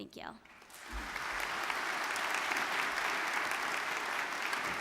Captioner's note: audience clapping